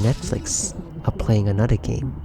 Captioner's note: muffled TV sounds